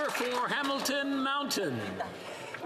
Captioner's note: applause